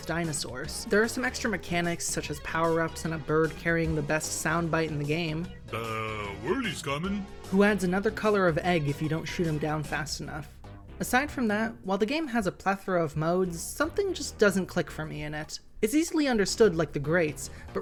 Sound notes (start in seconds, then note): 5.8 play duhh… whirley’s comin’ sound